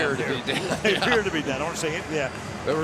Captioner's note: chuckles